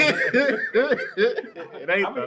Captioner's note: laughter